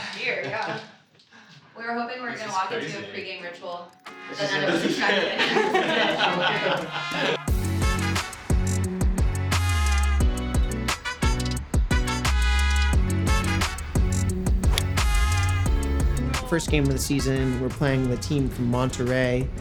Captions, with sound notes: Gear, yeah, we're hoping we're gonna walk you into a pregame ritual. [all laughing] [uplifting music] First game of the season, we're playing the team from Monterrey.